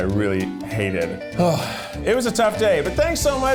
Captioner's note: sighing